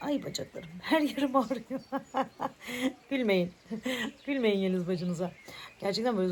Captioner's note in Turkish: kahkaha